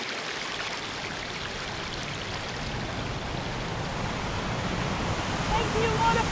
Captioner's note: water rushing